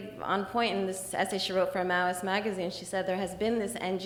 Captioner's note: slurs words; slurs words